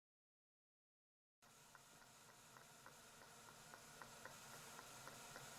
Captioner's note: medical machines tapping